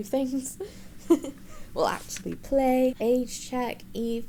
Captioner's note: giggles